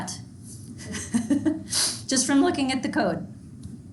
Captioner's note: chuckling